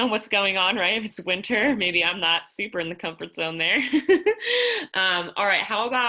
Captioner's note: laughter